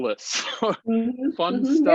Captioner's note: chuckles